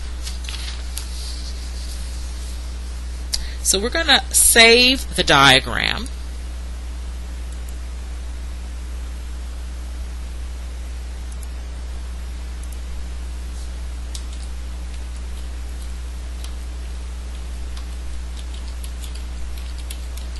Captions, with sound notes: So, we're going to save the diagram. [ Typing ]